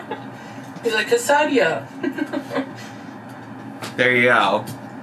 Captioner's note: laughs